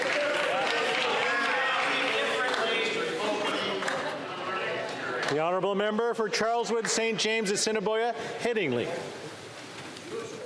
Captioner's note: chatter